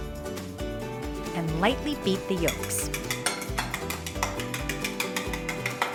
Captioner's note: whisk rattles